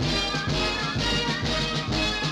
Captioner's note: horn